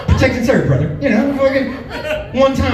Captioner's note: chuckles